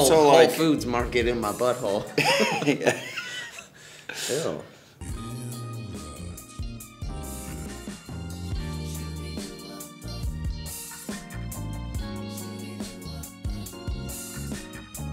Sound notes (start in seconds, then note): 1.9 laughs; 5.6 relaxed R&B music